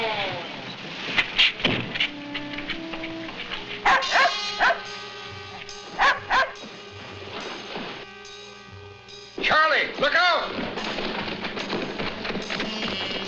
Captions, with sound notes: (doors thudding) (dog barking) - Charlie, look out.